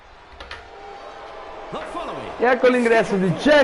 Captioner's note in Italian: Applauso